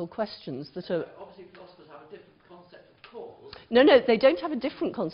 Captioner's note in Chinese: 無聲